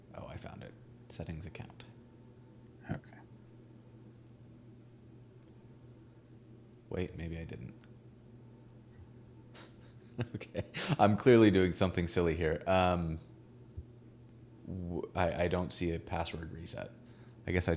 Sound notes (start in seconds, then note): 9.6 laughing